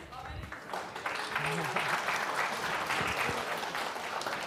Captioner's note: applause